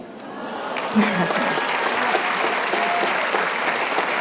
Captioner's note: applause